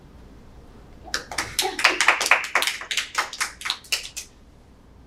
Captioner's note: panelists applauding